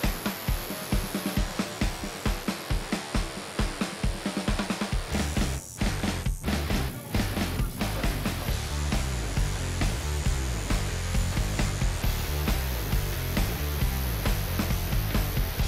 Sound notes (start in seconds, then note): 1.3 needle buzzing